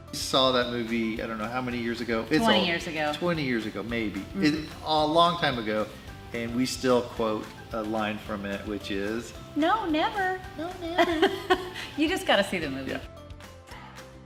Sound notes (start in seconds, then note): 11.0 laughs